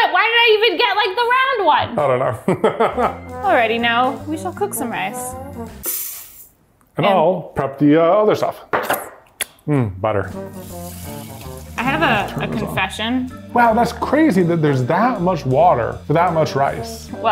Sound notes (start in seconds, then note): 6.3 rice falling; 10.4 water pouring